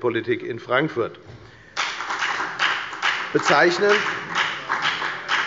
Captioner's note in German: Beifall bei der FDP